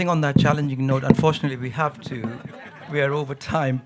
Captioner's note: audience laughing